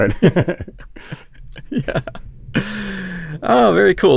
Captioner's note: laughs